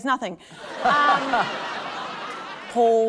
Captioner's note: laughter